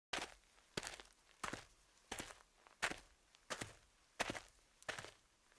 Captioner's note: footsteps